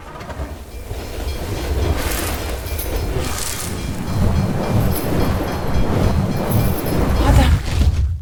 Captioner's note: bells ringing